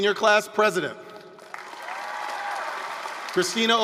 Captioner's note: applause, cheering